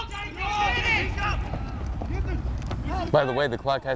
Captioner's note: players shouting